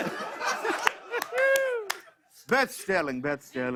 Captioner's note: laughter